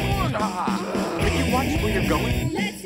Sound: grunts

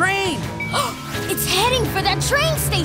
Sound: gasping

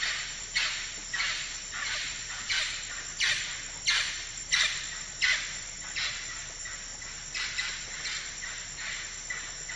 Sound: forest sounds

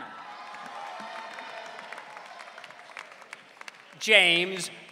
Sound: audience cheering

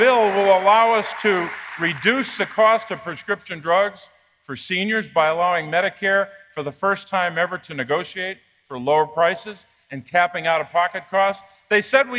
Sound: applause

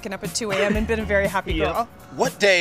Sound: laughs

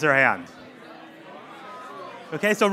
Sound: crowd Talking

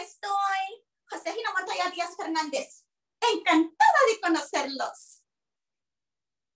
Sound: speaking Spanish; speaking Spanish

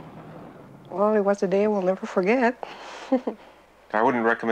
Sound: laughs

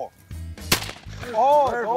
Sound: gun firing

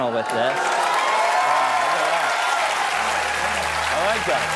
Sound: applause

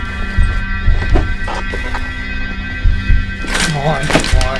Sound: pillows ruffle

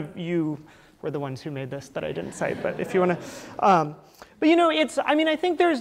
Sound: laughter

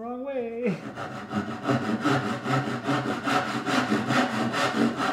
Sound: saw rasping

